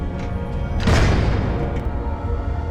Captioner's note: door closes